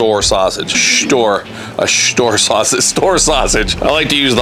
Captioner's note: laughing